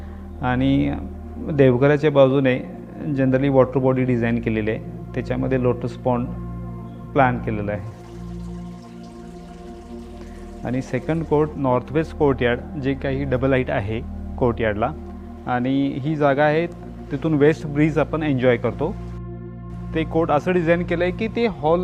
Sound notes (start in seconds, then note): 7.8 water gushing